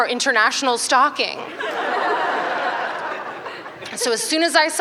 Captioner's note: laughter